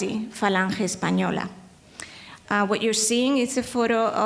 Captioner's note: speaking in foreign language